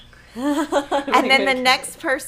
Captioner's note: laughing